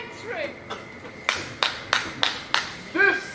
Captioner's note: clapping